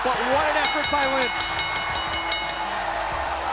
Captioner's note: bell ringing; crowd cheering